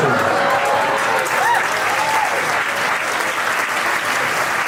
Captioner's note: crowd laughing and clapping